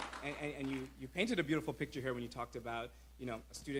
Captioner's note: applause